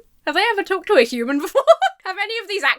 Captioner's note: laughs